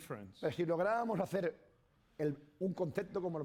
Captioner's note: speaking spanish